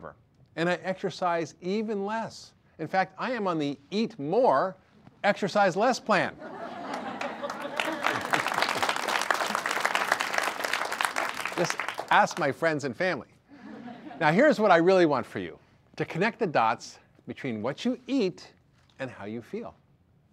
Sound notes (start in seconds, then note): 6.8 audience applause